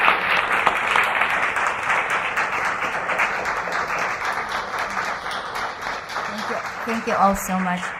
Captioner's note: applause